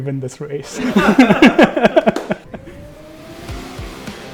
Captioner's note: laugh